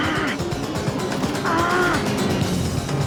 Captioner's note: grunting